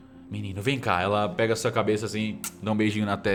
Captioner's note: smack